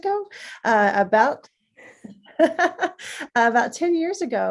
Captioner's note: laughs